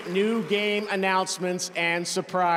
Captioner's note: cheers and applause